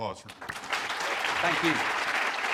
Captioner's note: applause